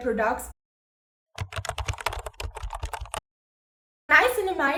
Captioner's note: typing sound